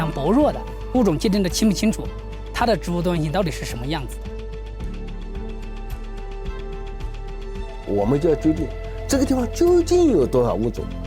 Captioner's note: dramatic music; speaking in foreign language